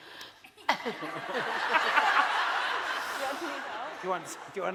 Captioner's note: laughing